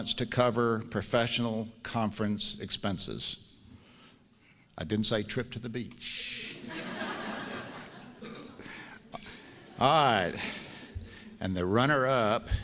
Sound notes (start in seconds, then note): 6.6 laughs